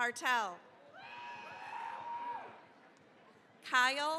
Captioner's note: cheering, applause